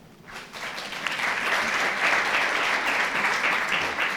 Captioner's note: audience applauding